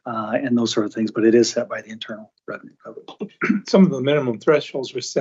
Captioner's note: clears throat